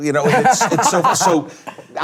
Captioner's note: panelists laugh